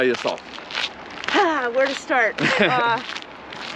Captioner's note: sighs; laughs